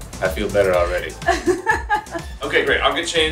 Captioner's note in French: rire